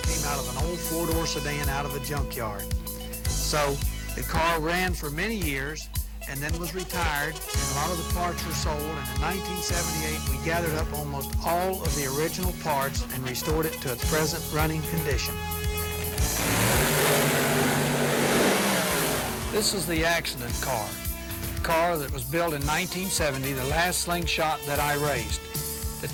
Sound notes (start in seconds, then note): 17.5 engine roar